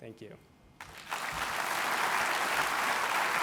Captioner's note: applause